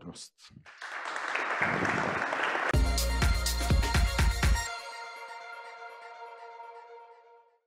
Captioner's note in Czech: Potlesk